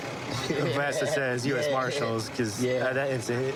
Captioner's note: laughing